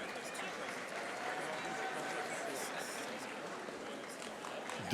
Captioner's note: audience applauding